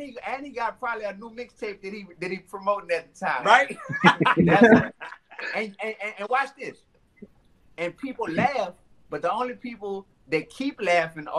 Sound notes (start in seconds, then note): 3.4 laughs